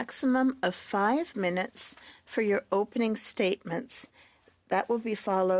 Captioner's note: speaking French